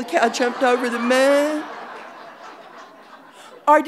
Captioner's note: audience laughing